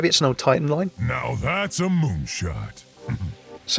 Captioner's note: voiceover